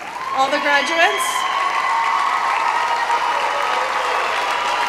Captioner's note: cheering